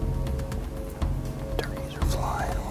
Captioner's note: whispering